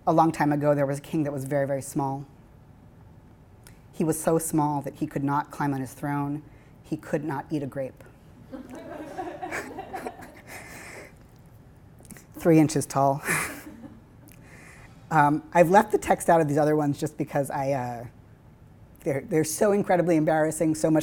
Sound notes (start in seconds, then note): 8.5 laughing; 13.2 laughing